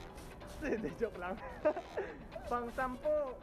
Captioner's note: laughs